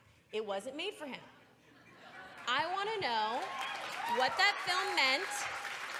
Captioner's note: applause